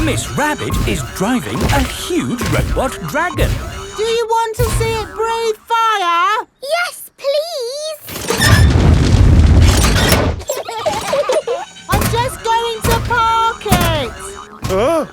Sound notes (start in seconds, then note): 10.4 children giggling